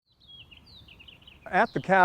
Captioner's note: birds twittering